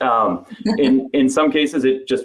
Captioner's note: giggling